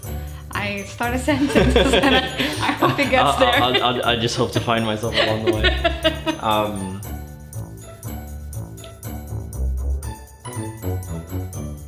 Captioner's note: laughter; laughter